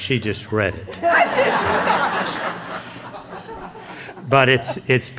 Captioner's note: laughing